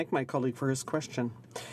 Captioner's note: speaking French